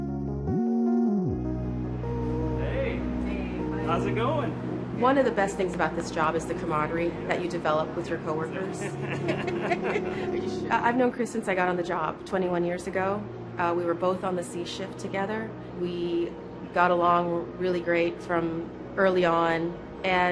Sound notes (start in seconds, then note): 8.6 laughter